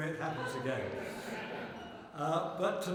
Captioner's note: laughter